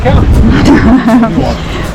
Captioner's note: laughs